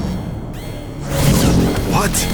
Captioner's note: alarm blaring